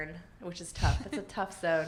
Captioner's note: laughs